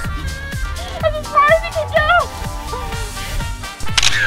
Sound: laughing; camera shutter click

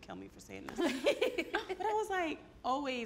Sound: all laugh

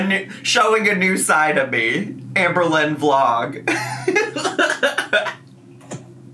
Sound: laughs

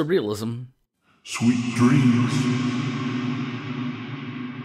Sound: echoing

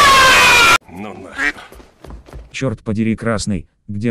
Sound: quack

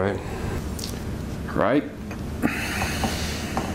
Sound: sighs

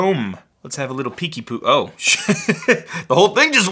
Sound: laughs

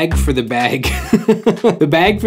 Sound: laughs

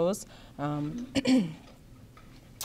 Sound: clears throat

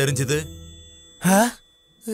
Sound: whistle blows

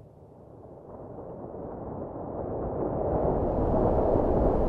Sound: wind blows

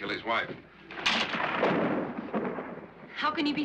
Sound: thunder rolls; curtains slide

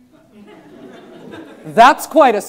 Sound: students laughing

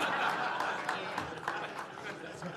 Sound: laughter

